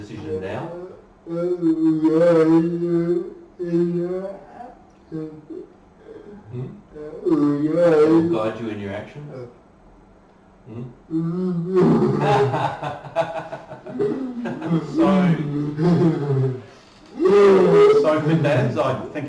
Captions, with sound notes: That will guide you in your actions. (laughing) So for Dazz, I think he's got capacity